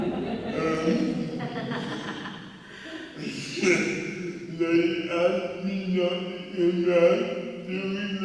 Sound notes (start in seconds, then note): 0.0 audience members laughing; 3.7 chuckling